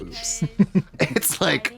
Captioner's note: Katya titters